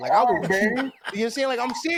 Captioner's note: laughter